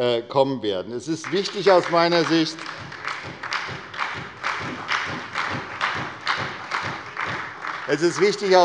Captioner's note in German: Beifall bei der SPD